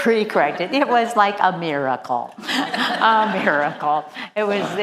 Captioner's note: laugh